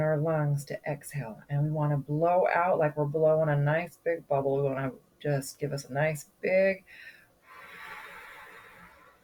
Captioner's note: exhales